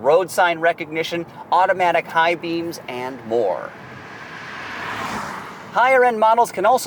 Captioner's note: car passing